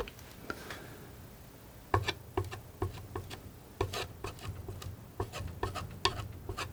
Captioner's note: tapping